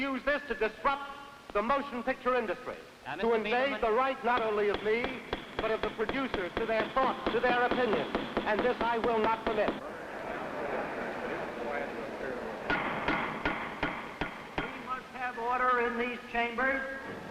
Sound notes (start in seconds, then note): 9.2 gavel banging; 9.3 crowd chatter; 12.7 gavel banging